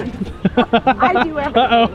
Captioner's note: people laughing